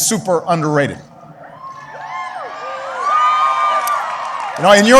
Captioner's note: applause